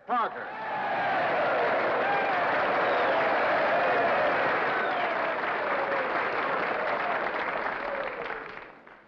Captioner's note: crowd cheers and applauds